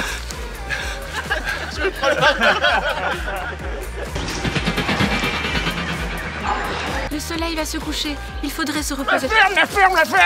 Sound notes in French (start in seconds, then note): 0.5 en riant; 0.8 rires collectifs; 0.9 rires